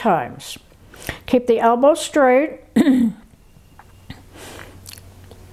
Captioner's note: clears throat